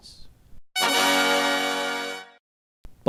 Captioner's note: sfx:taadaa!